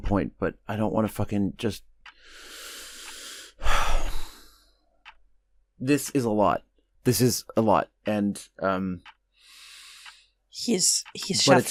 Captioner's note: sighs